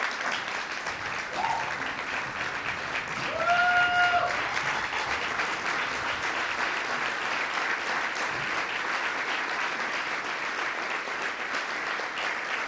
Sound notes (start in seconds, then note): 6.6 cheering; 10.0 applause